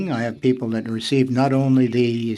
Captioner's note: speaking French